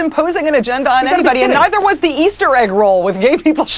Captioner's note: laughing